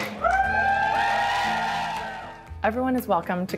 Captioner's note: people cheering